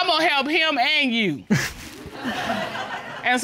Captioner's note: all laughing